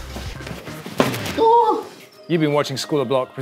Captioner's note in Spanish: Hombre en el piso grita